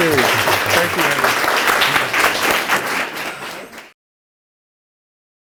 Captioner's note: applause